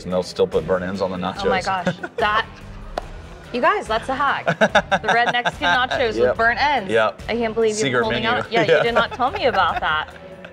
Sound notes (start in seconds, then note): 4.0 laughs